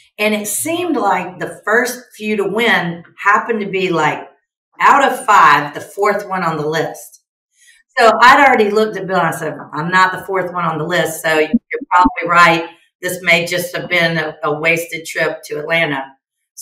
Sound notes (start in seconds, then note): 12.2 chuckles